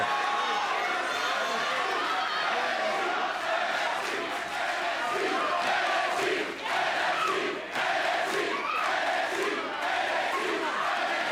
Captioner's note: crowd cheering